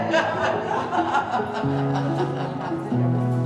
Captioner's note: both laughing